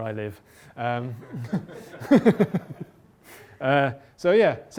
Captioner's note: laughter